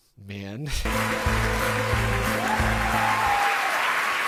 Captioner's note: applause